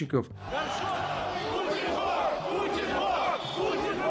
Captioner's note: chanting